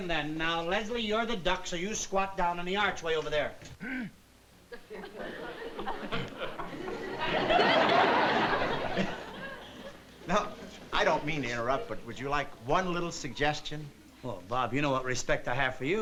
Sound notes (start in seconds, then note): 3.7 clears throat